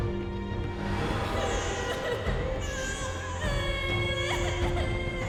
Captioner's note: woman sobs and child cries